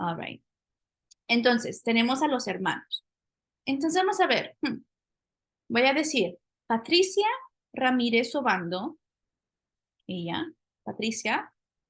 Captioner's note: speaking spanish